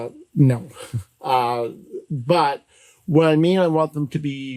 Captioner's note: laughs